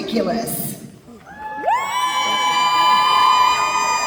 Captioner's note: applause